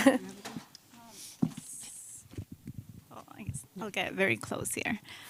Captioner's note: laughs; shuffling